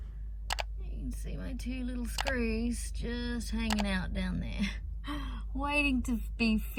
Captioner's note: scoffs